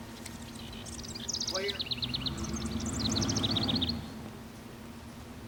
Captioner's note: engine whirring